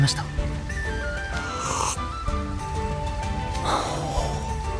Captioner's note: sip